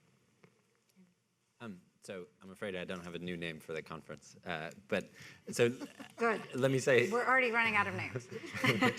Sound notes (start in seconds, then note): 5.5 people laughing; 8.2 people laughing